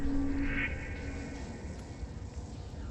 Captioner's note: none